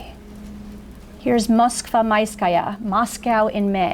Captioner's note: foreign language